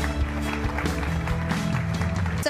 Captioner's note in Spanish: aplausos